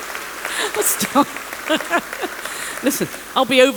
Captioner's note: applause